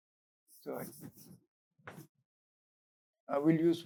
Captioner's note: hand swishes